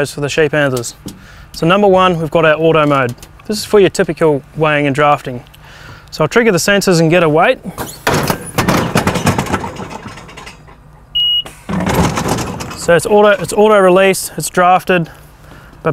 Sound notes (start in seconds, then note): 8.0 loud banging; 11.1 beep